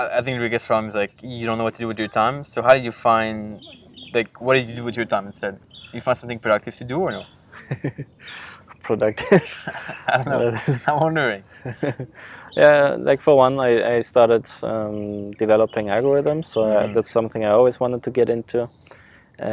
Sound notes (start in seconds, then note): 9.1 laughing